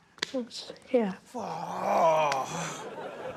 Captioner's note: laughter